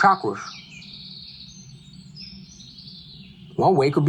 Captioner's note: birds chirping